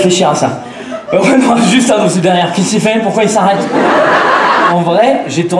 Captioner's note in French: Rires